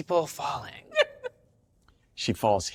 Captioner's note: laughs